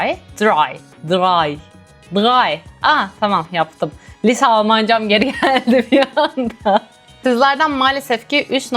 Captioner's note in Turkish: kahkaha